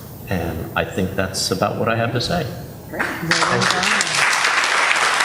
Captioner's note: applause